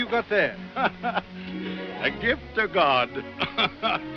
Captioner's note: laughs